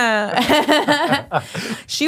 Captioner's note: laughing